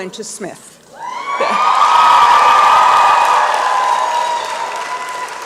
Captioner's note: applause and cheering